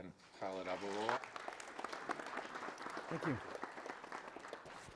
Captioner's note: audience applauds